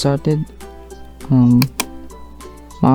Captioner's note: click